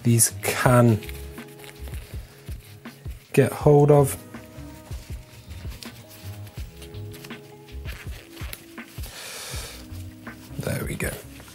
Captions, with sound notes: these can... (wiping) get hold of. (wiping) There we go.